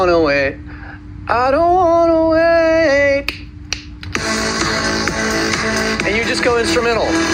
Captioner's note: snapping fingers